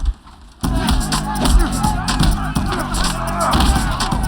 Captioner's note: grunting, cheering